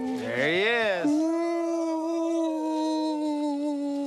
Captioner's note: ghost sounds